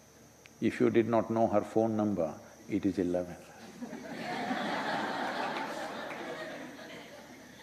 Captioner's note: laughter